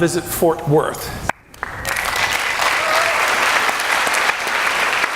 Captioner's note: clapping and cheering